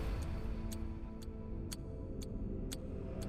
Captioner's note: upbeat music; ticking